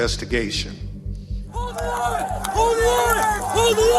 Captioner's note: shouting